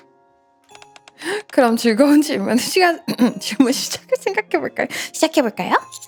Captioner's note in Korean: 목을 가다듬음